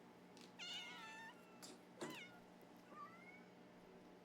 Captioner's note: cats meowing